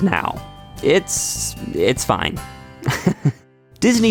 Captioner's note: laughs